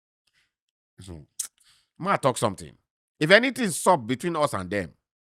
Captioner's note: smacks lips